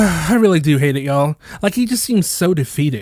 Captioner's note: sigh